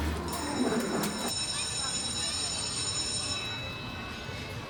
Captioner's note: school bell rings